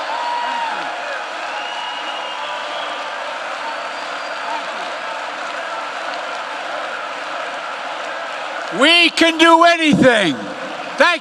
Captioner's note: applause